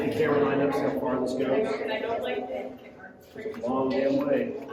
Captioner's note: people chattering